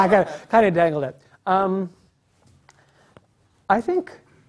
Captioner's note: laugh